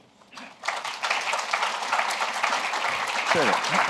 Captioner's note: applause